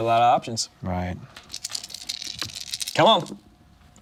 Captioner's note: dice rattling